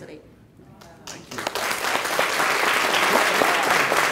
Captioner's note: clapping